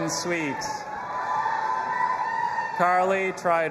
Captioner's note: audience applauding and cheering